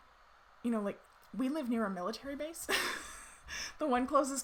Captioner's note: laughs